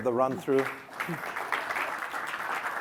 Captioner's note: applause